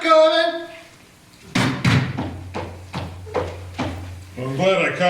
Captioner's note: footsteps